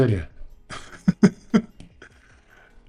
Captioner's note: laughs